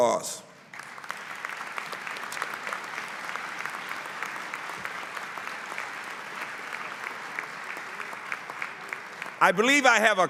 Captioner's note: applause